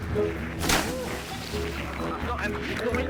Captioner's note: water splashing